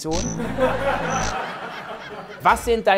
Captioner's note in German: Gelächter